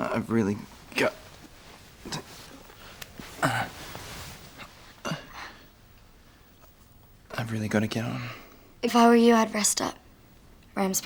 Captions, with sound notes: - Now I've really got to, (groans) I've really got to get on. - If I were you, I'd rest up.